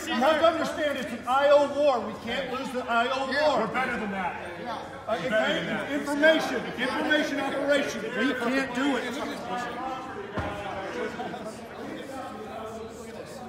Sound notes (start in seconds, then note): 9.1 men chattering and yelling